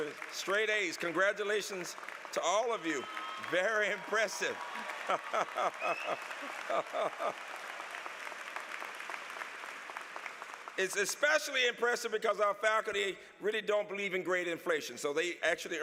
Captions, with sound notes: Straight A's. Congratulations to all of you. Very impressive (laughter). >>:(APPLAUSE) >>:It's especially impressive because our faculty really don't believe in grade inflation. So they actually